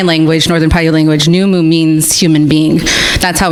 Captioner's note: speaks in different language